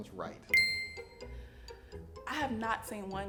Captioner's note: ding